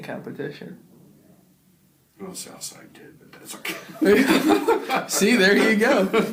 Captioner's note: both laugh